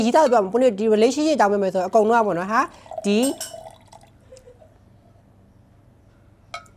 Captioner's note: clink